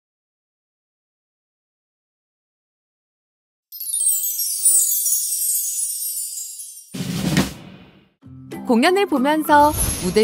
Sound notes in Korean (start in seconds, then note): 3.7 반짝이는 효과음; 8.5 밝은 음악